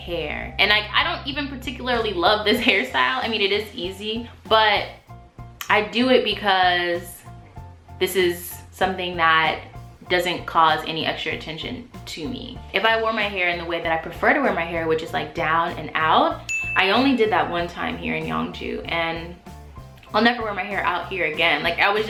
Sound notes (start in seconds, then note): 16.5 ding